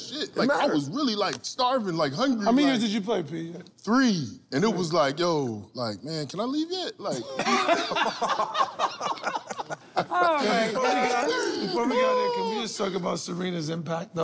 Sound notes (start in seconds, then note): 7.1 laughter